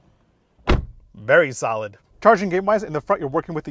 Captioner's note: door slams